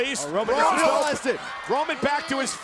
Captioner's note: commentators vocalizing